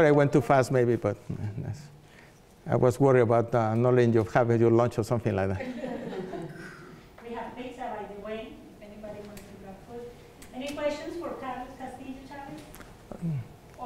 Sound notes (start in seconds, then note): 5.5 laughter